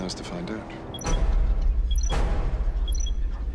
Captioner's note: trilling